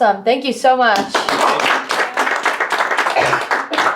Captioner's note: all applaud